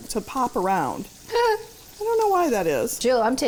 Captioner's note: giggles